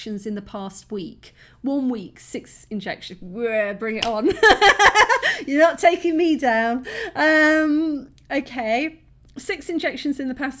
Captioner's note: laughing